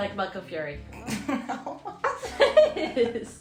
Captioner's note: laughter